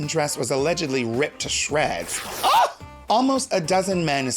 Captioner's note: shrieks